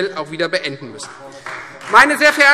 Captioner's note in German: Beifall Freie Demokraten